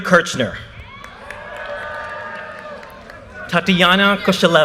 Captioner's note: audience cheers and applause